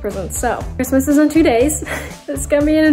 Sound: soft laugh

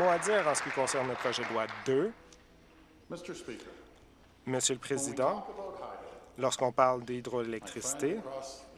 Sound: applause

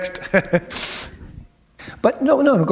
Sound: chuckle

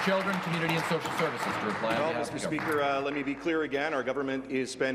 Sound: applause

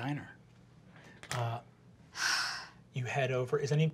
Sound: exhaling

